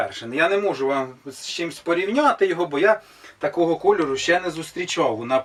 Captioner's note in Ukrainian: сопіння